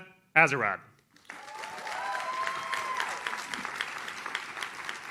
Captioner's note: audience cheers